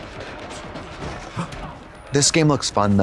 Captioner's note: Katya gasps